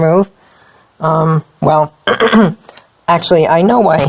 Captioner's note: clears throat